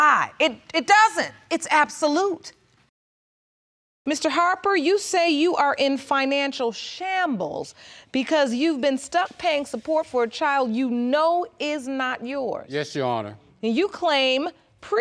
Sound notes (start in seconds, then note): none